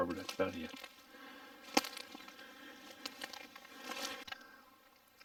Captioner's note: twigs snapping